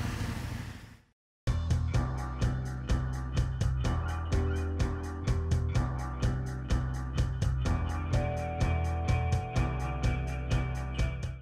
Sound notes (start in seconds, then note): 1.1 drone flying